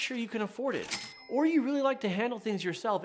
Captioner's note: cash register clinks